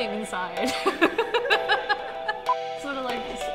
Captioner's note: laughter